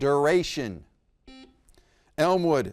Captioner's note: buzzer beeps